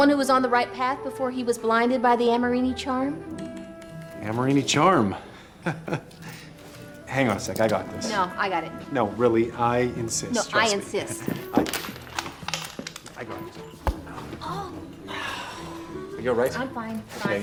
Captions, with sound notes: THE ONE WHO WAS ON THE RIGHT PATH BEFORE HE WAS BLINDED BY THE AMORINI CHARM? AMORINI CHARM? [LAUGHS] HANG ON A SEC, I GOT THIS. NO, I GOT IT. NO, REALLY, I INSIST. NO, I INSIST. [CLATTERING] I GOT IT. [THWACK] OW! ARE YOU ALL RIGHT?